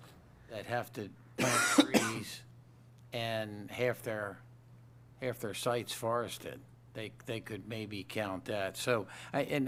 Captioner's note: cough